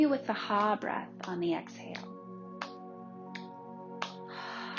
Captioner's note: hands tapping; hands tapping